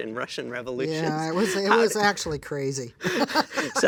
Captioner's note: laughs; laughs